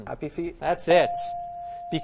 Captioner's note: bell dings